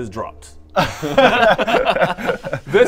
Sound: sorry-not-sorry giggles

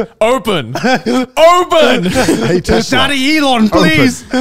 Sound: all laughing

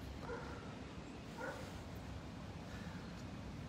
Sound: dog barking

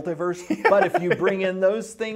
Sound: interviewer laughing

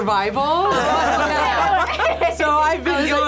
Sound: group laughs

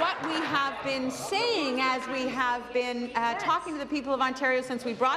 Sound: applause

